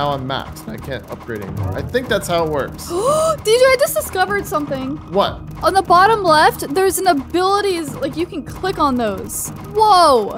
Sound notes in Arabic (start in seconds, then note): 2.7 يلهث